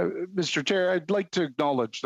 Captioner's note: speaking indigenous language